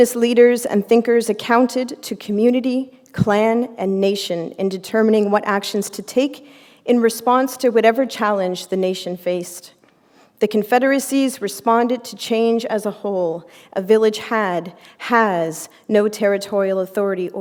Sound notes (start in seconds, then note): none